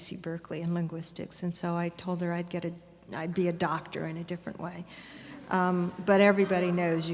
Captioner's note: laughter